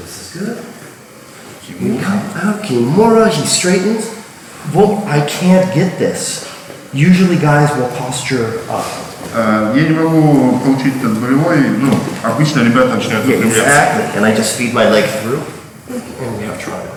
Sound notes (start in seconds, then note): 9.5 speaking in a foreign language